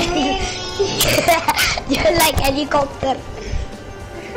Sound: laughs

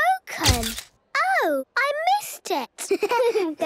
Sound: camera clicks; giggling

